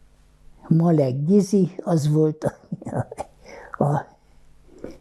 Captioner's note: laughing